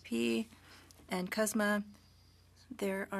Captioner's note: speaking French